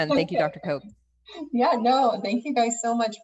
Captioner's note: laughing